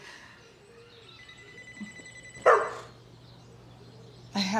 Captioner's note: phone ringing inside; Nala barking